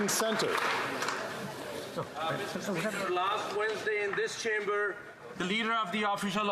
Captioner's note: some Applause